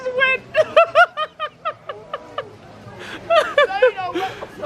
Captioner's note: continues laughing